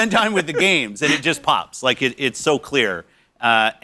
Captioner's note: laughter